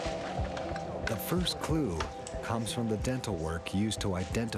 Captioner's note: voiceover